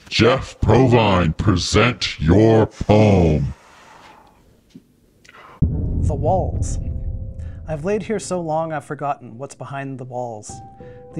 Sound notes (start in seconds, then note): 5.2 exhales